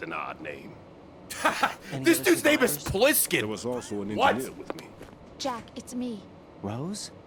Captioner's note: laughs